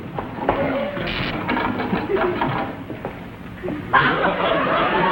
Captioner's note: buzzing noises; audience laughs